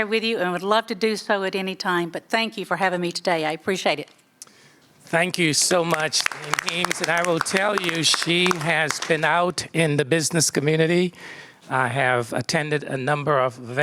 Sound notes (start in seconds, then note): 5.6 applause